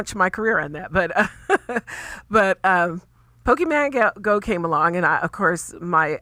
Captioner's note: laughs